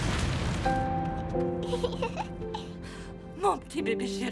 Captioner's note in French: riant